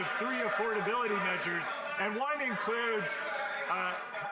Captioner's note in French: voix de l'interprète